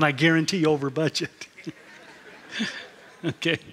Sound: laughter

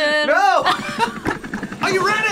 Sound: both laugh

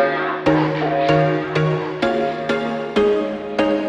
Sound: deep voice singing; echoing

